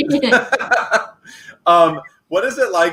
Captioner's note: laughing